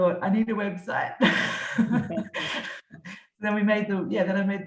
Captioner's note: both laughing